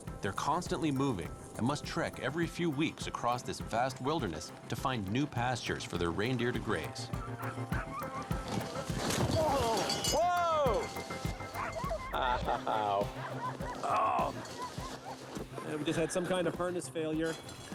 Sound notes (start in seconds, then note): 7.1 dogs barking; 9.3 grunts; 12.0 laughs; 14.0 groans